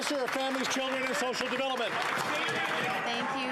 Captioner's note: some Applause